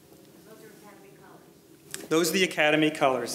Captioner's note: female voice